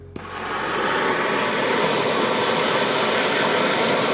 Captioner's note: torch hissing